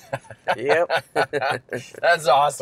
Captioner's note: both laugh